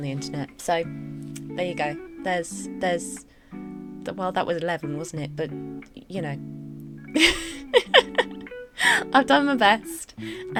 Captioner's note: laughs